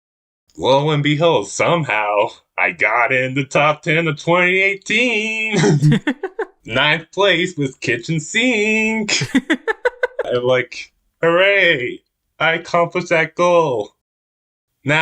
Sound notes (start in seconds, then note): 5.3 both laugh; 9.0 laughs